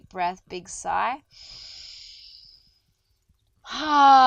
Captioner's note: inhales deeply